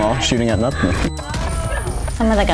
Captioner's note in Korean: 웃음